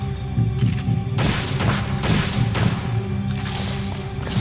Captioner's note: gun firing